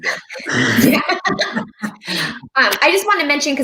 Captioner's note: laughs